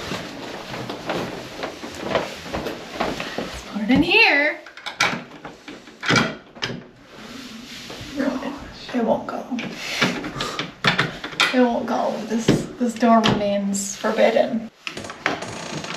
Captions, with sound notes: is put it in here. [door rattles]